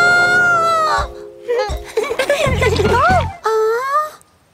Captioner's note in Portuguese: Risos